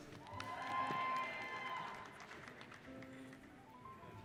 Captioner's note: applauding